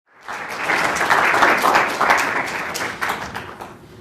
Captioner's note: clapping